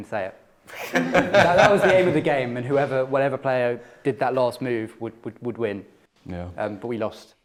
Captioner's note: laughter